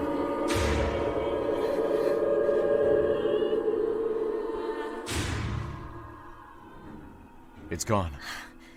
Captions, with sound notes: WRAITH (CRIES IN THE DISTANCE) DAN It’s gone.